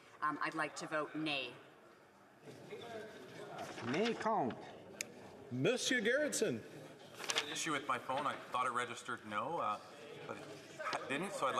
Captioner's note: calling of recorded vote